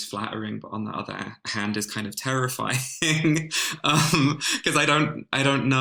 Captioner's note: laughs